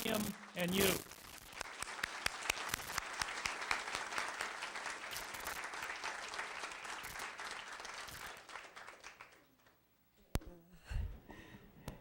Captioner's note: applause